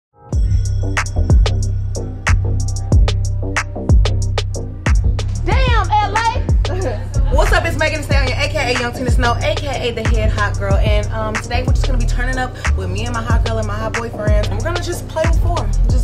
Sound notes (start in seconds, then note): 0.0 upbeat rhythmic music; 6.4 laughs